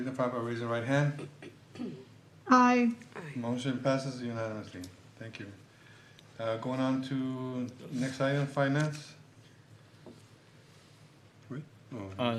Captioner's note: clears throat